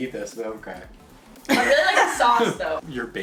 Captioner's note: laughing